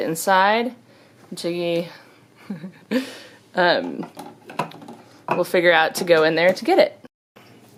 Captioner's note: laughs